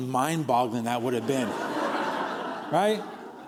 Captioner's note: laughter